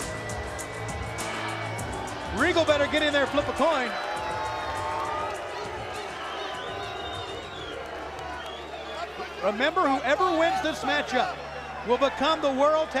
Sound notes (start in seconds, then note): 0.2 crowd cheering; 8.5 crowd chatter